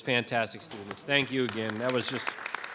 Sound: audience applauding

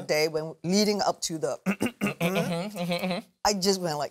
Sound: clears throat

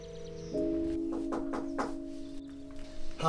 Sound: door knocks

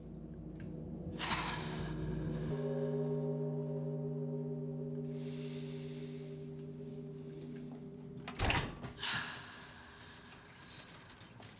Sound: deep breathing

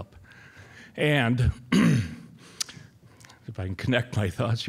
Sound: clearing throat

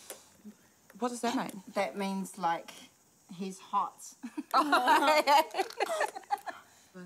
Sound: all laugh

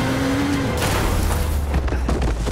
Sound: crashing

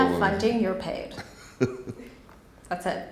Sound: man laughs

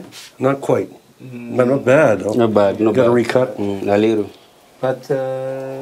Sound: speaks Swahili

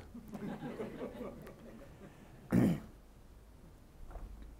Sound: audience laughing

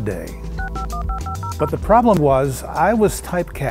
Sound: dialing

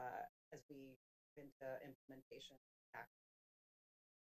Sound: audio cuts

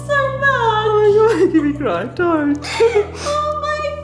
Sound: crying

